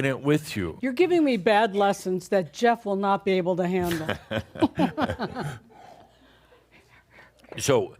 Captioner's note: they chuckle